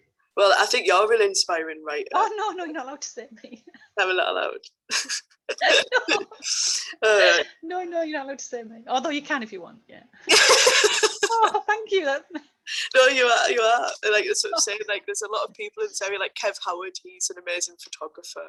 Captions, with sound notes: Well, I think you're really inspiring writer. No, no no – you’re not allowed to say me. Oh, am I not allowed? No, you’re not allowed to say me…although you can if you want. (Laughs) Thank you. No, you are, you are. That’s what I’m saying like there’s a lot of people in this area like Kev Howard he's an amazing photographer.